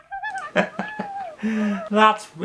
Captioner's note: chuckles